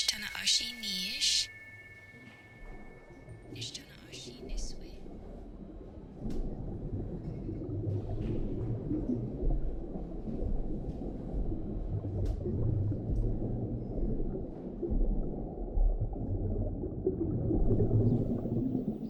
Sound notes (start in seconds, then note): 0.8 bell tings; 5.8 water gurgles